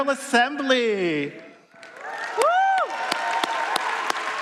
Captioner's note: applause